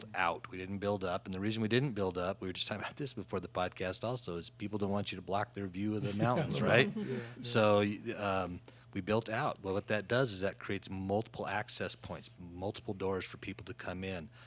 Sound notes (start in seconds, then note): 6.0 laughing